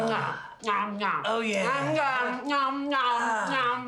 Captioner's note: wailing